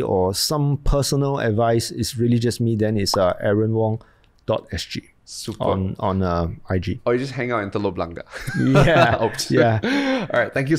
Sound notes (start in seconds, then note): 8.3 both laugh